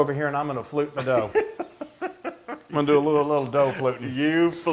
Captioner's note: laugh